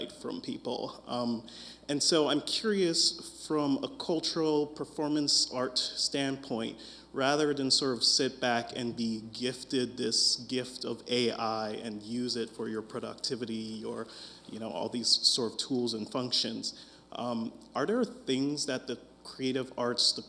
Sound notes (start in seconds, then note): none